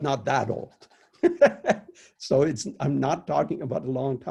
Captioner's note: laughs